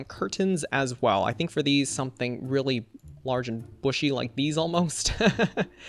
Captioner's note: laughs